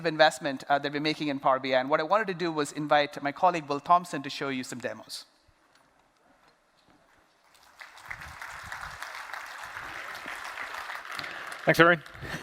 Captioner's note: applause